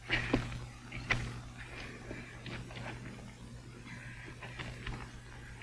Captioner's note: footsteps thudding